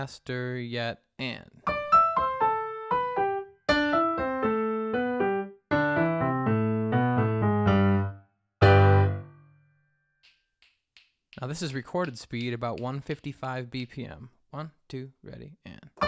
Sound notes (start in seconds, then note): 1.6 piano music; 10.2 fingers snap; 15.8 uptempo piano music